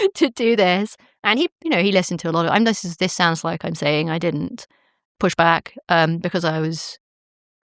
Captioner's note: chuckles